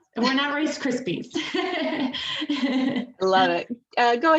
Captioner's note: all laughing